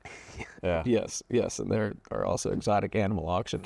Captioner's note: laughs